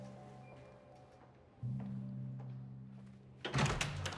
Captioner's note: footsteps approach